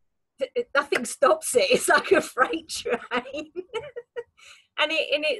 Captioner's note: laughs